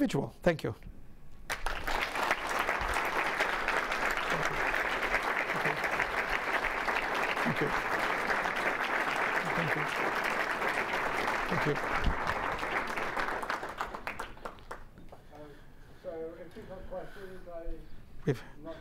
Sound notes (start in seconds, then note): 1.4 audience applauding